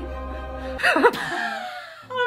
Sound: Tom laughs uncomfortably; laughs

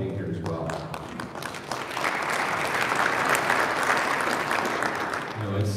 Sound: audience applauding

